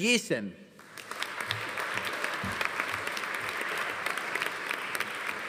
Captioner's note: audience applauding